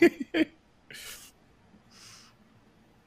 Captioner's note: laughing